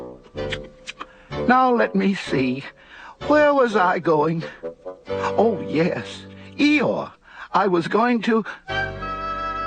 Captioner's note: smacks lips